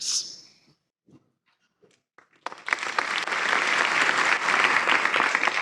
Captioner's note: applause